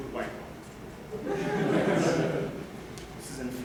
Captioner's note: laughter